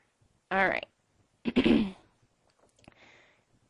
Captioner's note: clearing throat